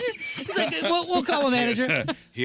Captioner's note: laughing